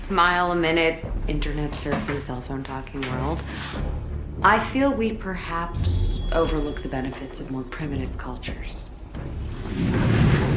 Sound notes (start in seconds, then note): none